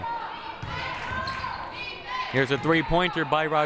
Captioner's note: crowd cheering